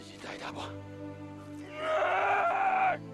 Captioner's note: yelling